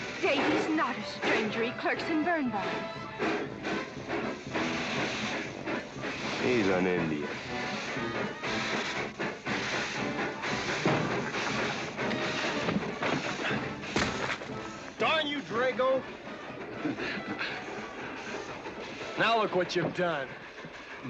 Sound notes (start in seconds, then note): 3.7 train chugging away; 7.9 train rumbling & crowd noise; 13.8 loud bump; 13.9 suitcase hitting ground